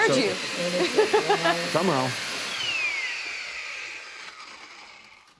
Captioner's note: laughs